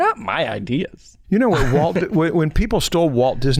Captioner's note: chuckles